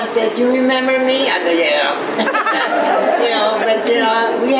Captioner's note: laughs